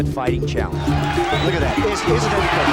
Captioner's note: crowd cheering